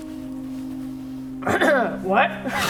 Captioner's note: clears throat